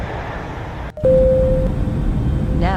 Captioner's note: plane Chime